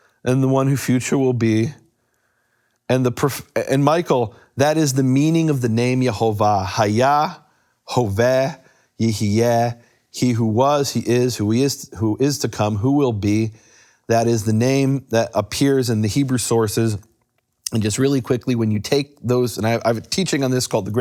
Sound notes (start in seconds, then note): 6.9 speaks in foreign language